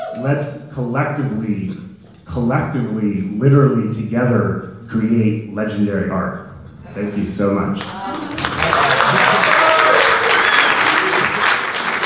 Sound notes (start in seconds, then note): 7.8 applause and cheering